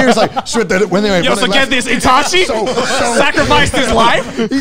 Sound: group chattering

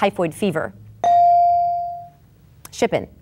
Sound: bell dinging

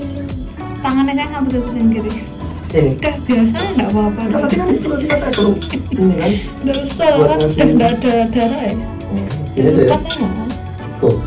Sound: chuckles

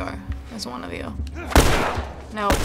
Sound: Joel grunts; gunshot

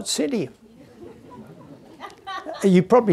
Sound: audience laughing

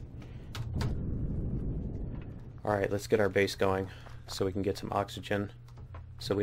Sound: keystrokes

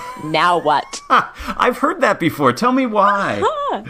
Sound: laugh

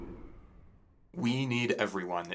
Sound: background music fades; winter wind blows

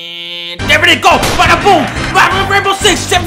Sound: gunshot

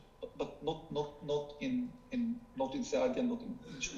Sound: speaking foreign language

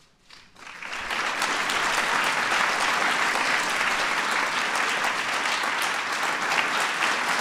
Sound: applause

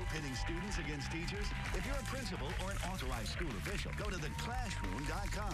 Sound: cheers and applause

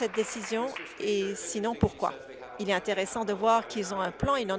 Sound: applause

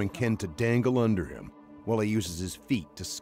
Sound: voiceover

